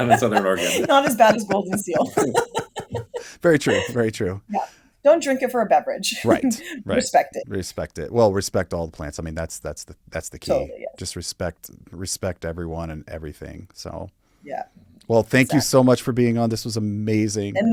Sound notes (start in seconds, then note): 2.9 laughs